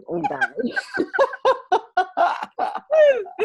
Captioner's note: laughing